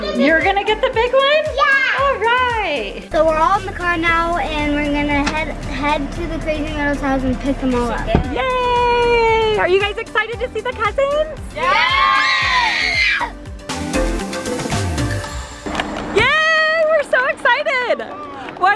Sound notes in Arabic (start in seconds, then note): 11.6 صراخ; 13.8 عزف موسيقى سعيد; 17.8 الناس تصفق